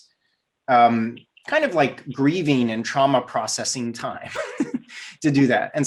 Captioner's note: laughs